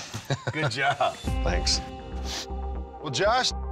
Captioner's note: sniffles